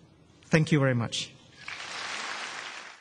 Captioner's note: applause